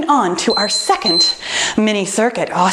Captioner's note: timer beeping